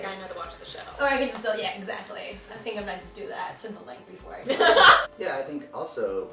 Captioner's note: laughter